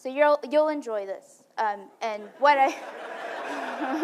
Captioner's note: laughing